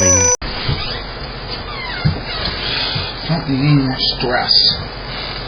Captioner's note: door opens